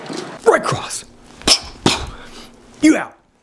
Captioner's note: heavy breathing